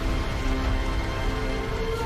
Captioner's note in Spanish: Crepitar de las llamas